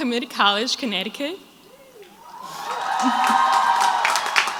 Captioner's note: crowd applauds